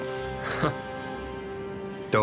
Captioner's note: Jonas chuckles